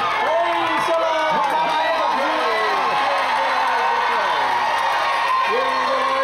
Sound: boisterous applause and cheering

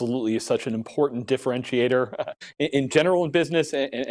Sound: laughs

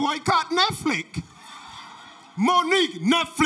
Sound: audience laughter

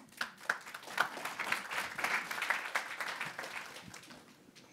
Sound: audience applauding

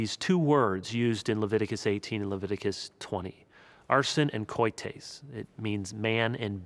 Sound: speaking Hebrew

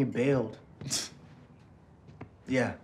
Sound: Tyler scoffs

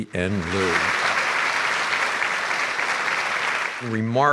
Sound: applause from audience

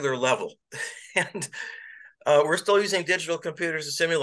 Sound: laughter

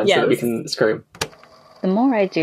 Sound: tape recorder clicks on

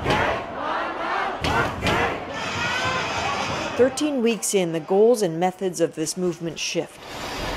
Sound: chants

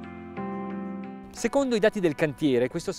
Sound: speaking in Italian

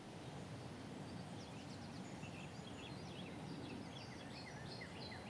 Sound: birds chirping

